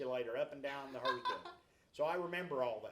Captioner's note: laughs